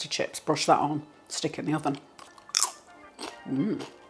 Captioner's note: crunch